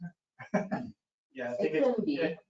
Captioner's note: chuckling